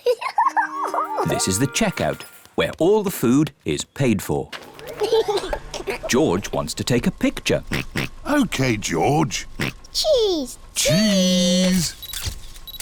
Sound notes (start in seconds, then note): 0.0 giggles; 4.9 giggles; 7.6 oinks